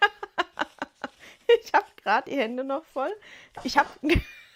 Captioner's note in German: gelächter